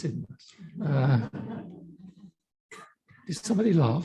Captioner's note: audience laughing